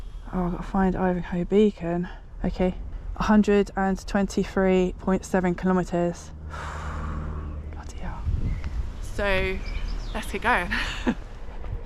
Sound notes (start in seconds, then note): 6.4 nervous exhale